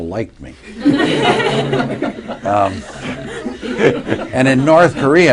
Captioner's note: laughter